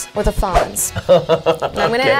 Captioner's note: laughing